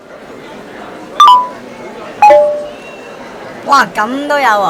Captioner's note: phone ringing